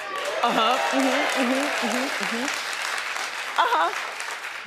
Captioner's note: audience cheering